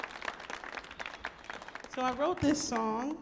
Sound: audience applauds

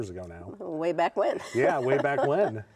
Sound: chuckling

